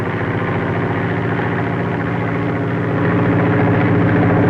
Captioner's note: plane flying